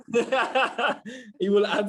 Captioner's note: laughter